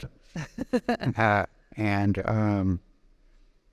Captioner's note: laughing